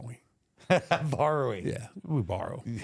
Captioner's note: chuckles